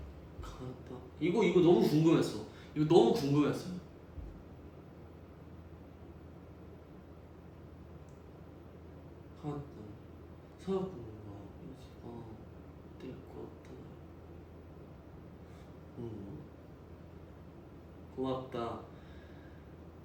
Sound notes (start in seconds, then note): 9.3 reading Japanese